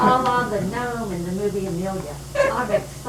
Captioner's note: laughter